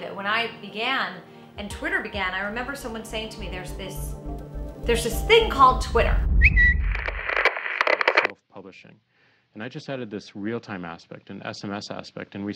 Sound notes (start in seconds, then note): 6.2 static crackles; 6.4 notification bird whistles